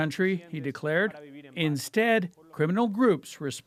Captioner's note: speaking alternate language